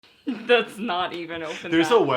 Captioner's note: laughing